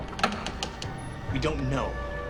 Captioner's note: door creaking